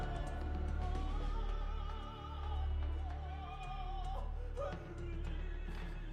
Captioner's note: distant cacophony of opera singing, shouting, drumming